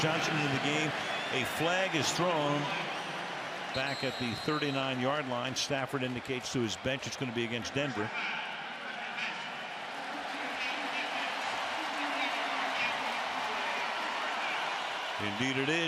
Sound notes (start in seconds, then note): 9.0 referee call; 11.9 cheers, applause